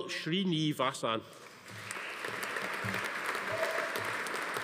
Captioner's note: audience applauding; attendee cheering